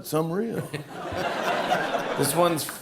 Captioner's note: laughter